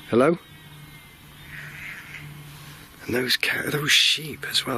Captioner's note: sheep bleating